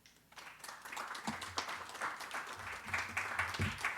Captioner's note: audience applauding